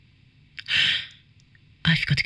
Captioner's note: gasps